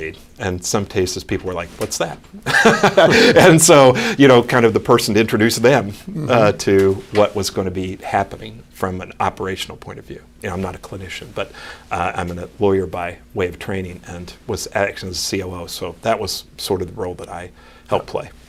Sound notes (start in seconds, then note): 2.4 laughs